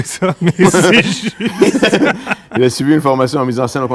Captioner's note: laughs